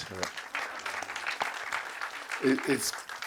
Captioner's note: applause